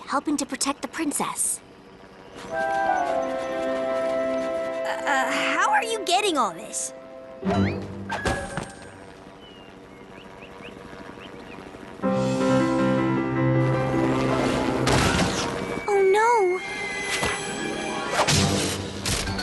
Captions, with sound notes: helping to protect the Princess. How are you getting all this? (crash) Oh no! (smash)